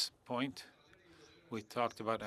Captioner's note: speaking French